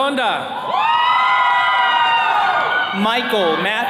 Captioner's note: attendees cheering